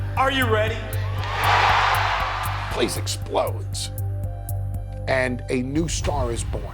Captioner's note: applause